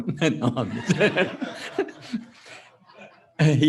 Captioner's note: laughter